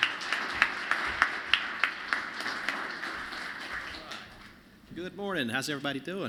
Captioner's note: applause